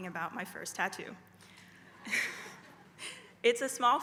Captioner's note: laugh